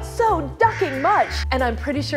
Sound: duck quacking

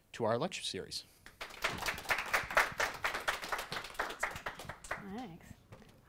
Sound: audience applauds

